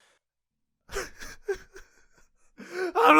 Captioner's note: crying noises